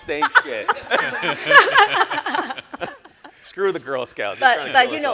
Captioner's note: all laugh